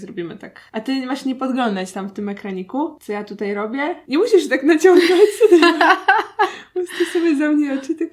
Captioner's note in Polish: śmiech